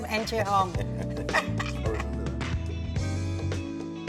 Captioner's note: laughs; smooth music